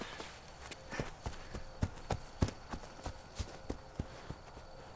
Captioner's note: footsteps running away